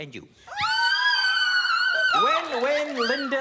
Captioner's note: screaming